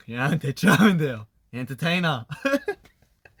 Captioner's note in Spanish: con acento australiano